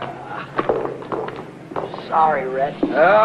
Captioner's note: helmet clattering